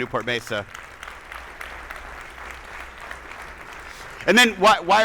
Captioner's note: attendees applauding